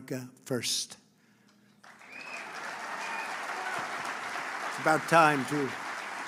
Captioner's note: applause